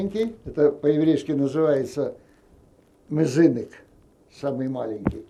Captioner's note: yiddish